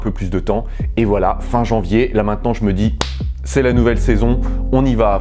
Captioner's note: clap